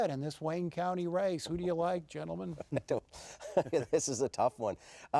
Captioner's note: laughter